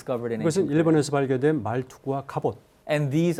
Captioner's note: speaking in Korean